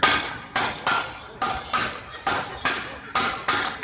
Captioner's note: metal clanging